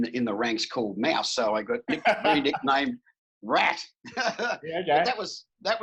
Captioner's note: laughing